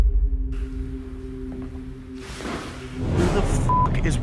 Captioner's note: footsteps approaching